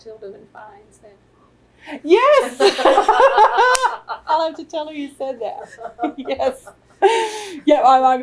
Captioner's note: laughter